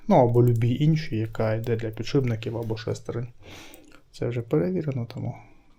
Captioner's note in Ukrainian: сопіння